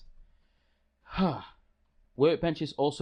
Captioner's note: phew